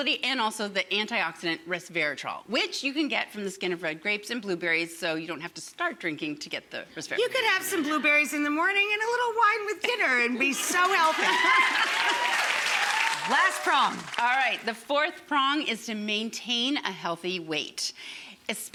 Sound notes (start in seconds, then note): 10.6 audience cheers and applauds